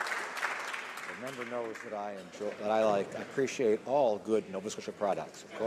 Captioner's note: some Applause